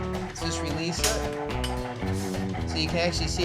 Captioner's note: clicking sound